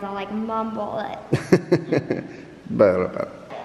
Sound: laughs

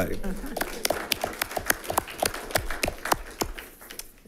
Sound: audience applauding

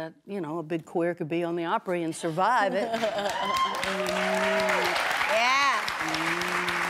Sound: applause

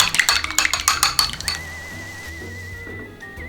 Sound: SFX: Broth boiling

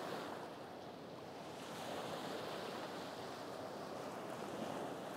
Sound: gentle waves

